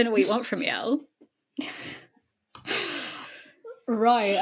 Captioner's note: both laughing